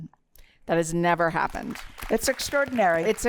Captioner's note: applause